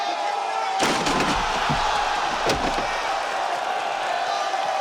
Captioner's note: crowd cheers